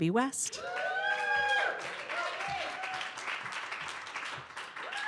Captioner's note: audience cheers and applause